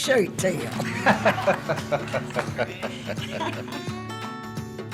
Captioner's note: laughs